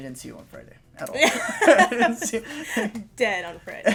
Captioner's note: laughter